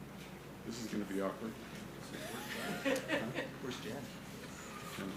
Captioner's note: attendee laughing